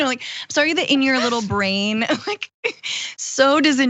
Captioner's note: laugh